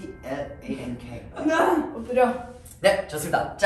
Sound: sounds of grieving

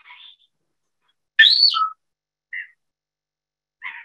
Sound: bird whistling

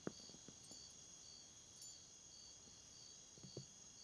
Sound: crickets chirp

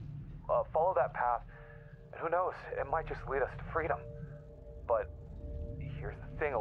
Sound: none

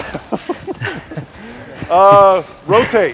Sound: laughter

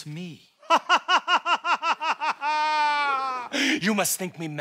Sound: laughs

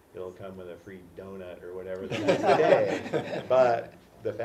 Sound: laugh

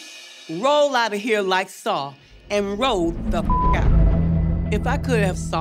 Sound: beep

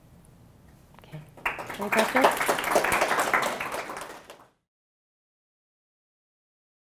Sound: audience applauds

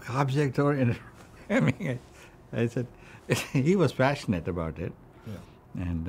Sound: laughs

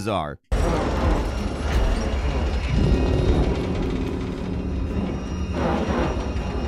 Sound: metal creaking; tense ominous music

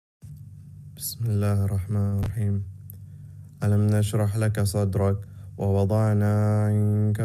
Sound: speaking Arabic

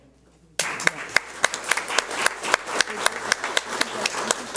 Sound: audience applauds

